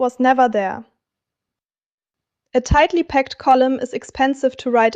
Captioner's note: pause